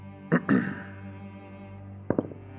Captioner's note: clears throat